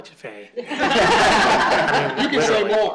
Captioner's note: laughter